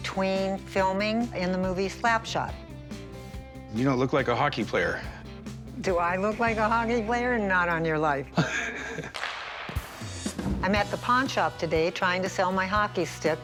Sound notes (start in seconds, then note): 8.2 laughs